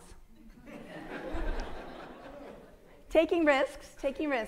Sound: audience laughing

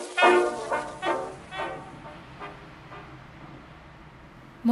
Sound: raindrops pattering

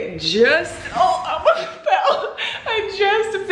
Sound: laughs

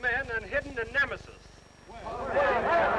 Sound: shouting

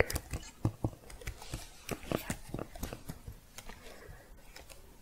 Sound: typing continues

